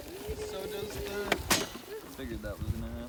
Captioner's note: clanks